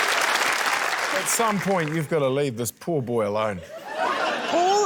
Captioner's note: laughter